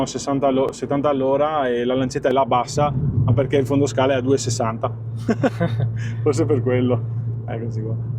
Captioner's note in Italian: risate